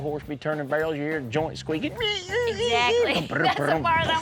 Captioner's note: makes squeaking sounds